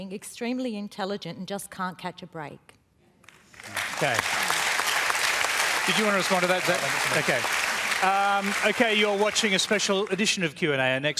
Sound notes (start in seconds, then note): 3.3 applause